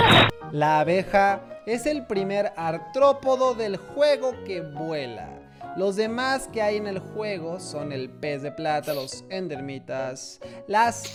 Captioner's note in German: nicht-englische rede